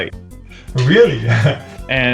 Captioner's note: laughs